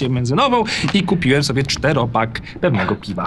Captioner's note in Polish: śmiech